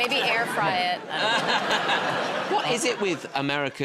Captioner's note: laughter